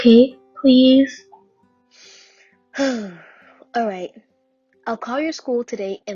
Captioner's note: sigh